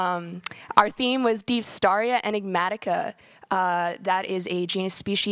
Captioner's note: speaking in foreign language